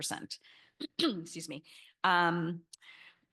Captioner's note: clears throat